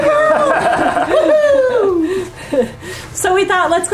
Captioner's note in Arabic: كلاهما يضحك